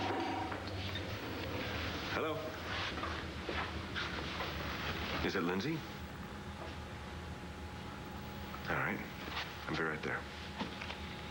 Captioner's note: phone rings